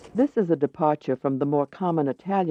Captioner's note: voiceover